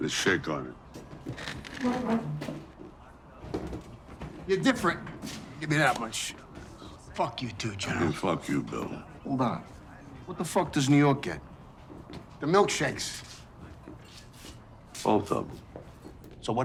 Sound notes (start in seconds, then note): 2.5 chair skidding